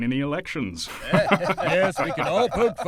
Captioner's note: ben, john, and tom all laugh